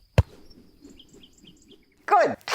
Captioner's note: ball whooshing